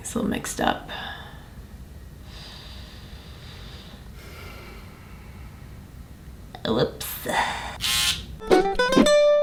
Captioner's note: razor sound